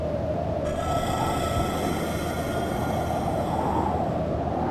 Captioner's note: beast shrieks